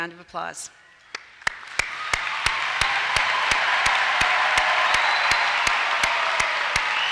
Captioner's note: applause and cheers